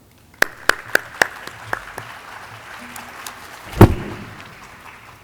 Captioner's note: audience clapping